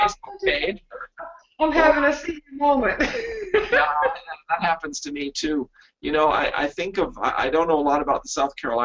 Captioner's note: laughter